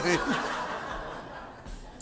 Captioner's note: laugh